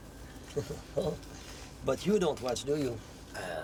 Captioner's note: chuckles